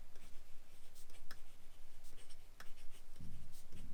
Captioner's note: pen scratching